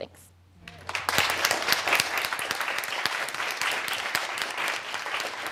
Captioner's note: audience clapping